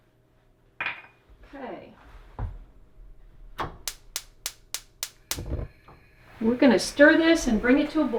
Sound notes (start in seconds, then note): 3.6 gas burner clicks, lights